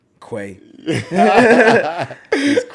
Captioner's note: laughs